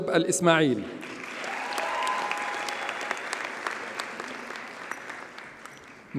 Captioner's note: audience cheers and applauds